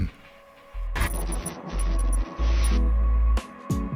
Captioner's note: static sound; upbeat music